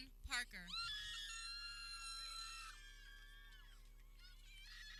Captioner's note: people cheering